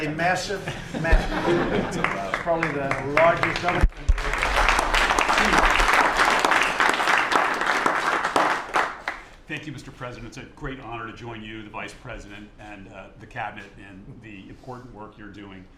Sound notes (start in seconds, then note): 8.0 applause